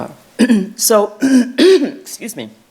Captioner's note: clearing throat